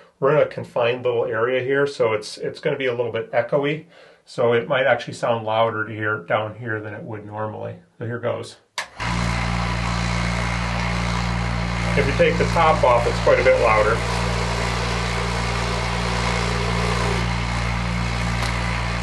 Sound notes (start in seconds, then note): 9.6 motor buzzing; 14.9 louder buzzing